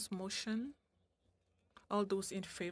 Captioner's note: speaking French